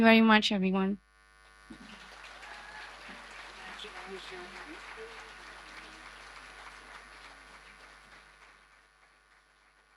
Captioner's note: audience applause